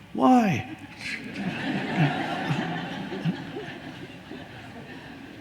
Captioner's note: audience laughing